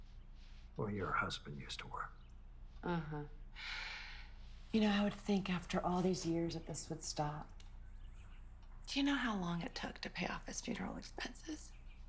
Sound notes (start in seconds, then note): none